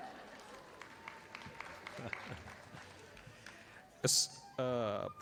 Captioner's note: audience applauding